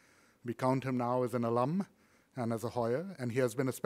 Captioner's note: foreign language